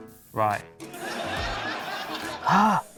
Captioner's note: laughter